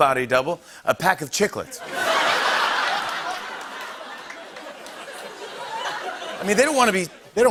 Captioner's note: laughter